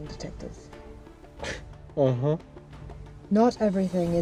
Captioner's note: scoffs